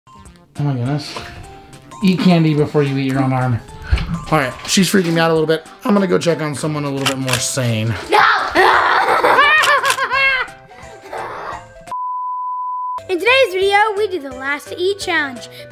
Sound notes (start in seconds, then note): 8.2 roars; 9.4 yelps